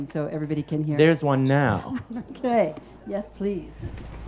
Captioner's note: laughs